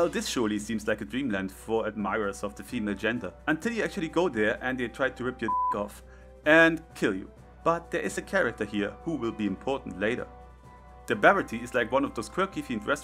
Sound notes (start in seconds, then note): 5.4 BEEP sound